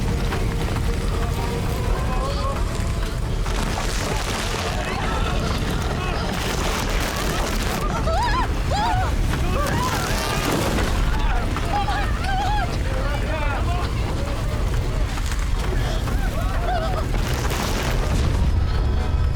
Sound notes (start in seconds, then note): 1.9 gasps; 7.6 screams; 9.5 visitors screaming; 15.5 gasping